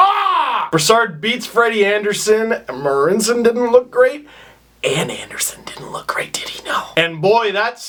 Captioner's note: whispering